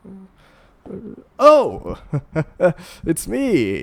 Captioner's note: nervous laugh